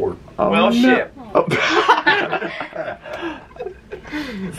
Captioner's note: lols